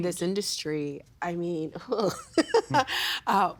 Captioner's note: laughing